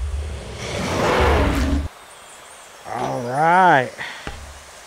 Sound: dinosaur roaring

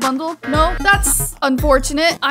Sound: negative buzzer blares

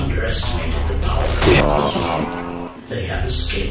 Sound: electronic static

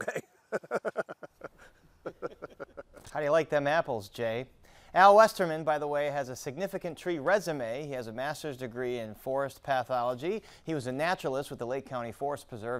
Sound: laughter

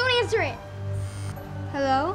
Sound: phone vibrates

